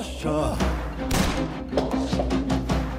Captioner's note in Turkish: Silah sesi